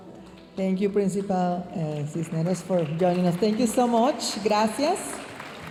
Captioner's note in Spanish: hablando en inglés